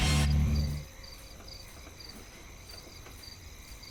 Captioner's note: crickets chirping